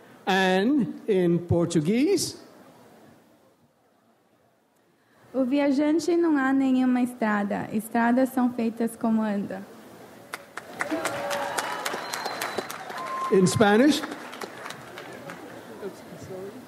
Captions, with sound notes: And in Portuguese. (speaks in foreign language) (audience applauds) - In Spanish.